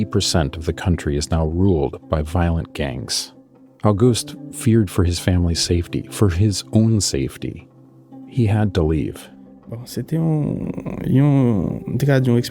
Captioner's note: speaking Creole